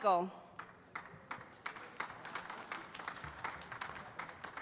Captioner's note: applause